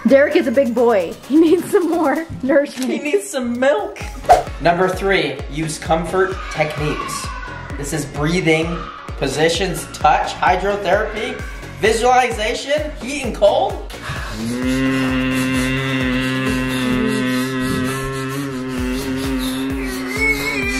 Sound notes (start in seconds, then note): 14.2 hums